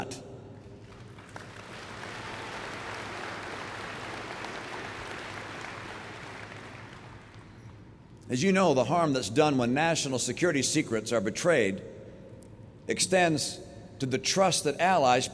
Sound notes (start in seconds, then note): 0.6 applause